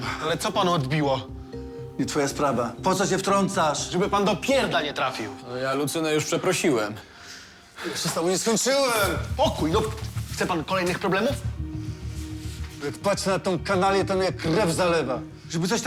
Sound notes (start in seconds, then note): none